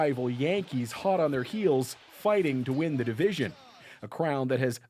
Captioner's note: crowd noise